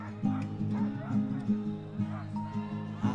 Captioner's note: dogs barking